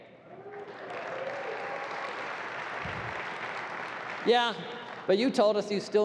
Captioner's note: applause